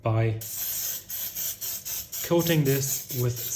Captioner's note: spraying